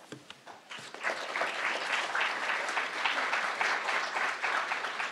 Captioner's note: crowd applauding